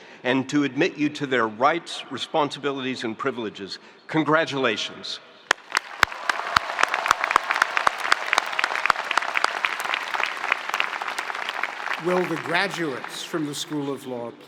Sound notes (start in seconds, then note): 5.5 spectators applauding; 5.5 spectators cheering